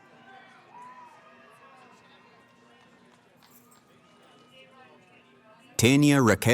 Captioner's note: cheering